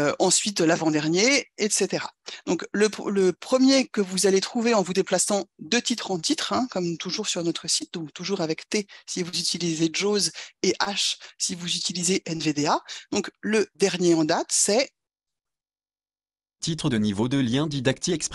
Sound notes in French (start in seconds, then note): 6.7 synthèse vocale